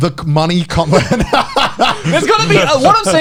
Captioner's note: both laughing